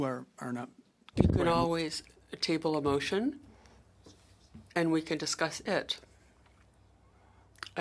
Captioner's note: speaking French